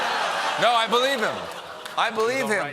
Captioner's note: laughter